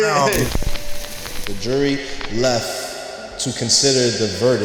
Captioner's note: voice fading